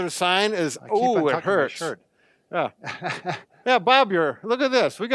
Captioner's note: laughs